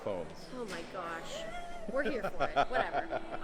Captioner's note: laughing